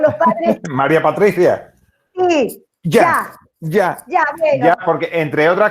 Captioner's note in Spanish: risas